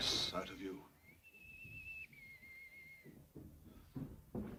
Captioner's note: whistling outside; footsteps outside room